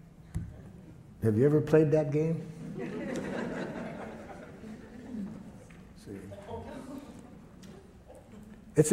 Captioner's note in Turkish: Gülüşmeler